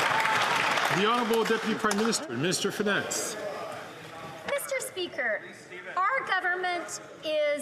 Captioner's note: some Applause